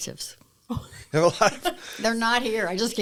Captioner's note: laughter